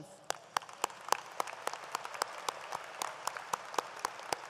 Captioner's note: audience applauds